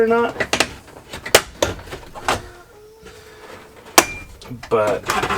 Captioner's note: dash rattling and creaking